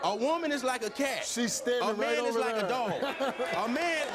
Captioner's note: laughs